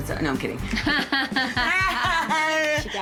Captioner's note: laughter